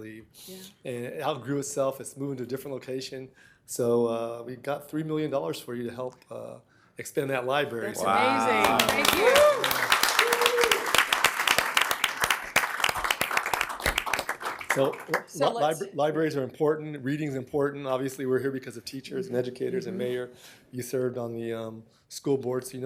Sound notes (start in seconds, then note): 12.8 applause